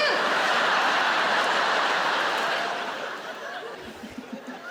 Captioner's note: audience laughing